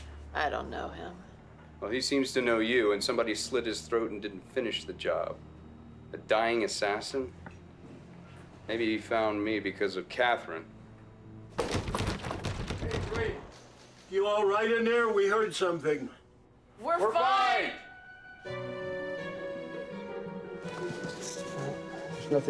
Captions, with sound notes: - I don't know him. - Well he seems to know you, and somebody slit his throat and didn't finish the job. A dying assassin? Maybe he found me because of Katherine. (door rattling) - Hey Drake, you all right in there? We heard something. - We're fine. - We're fine. (tense music)